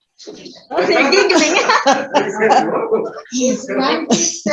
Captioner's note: laughter